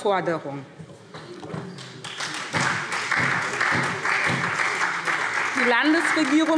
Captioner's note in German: Beifall SPD